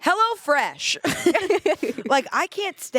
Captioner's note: everyone laughs